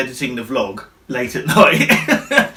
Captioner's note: laughs